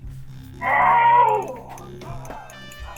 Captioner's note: screams